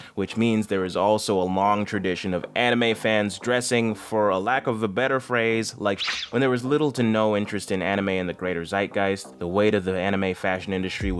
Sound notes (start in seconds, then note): 5.9 beep